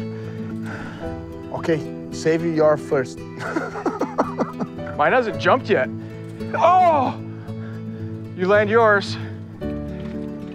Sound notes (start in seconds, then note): 3.3 laughing; 6.4 groans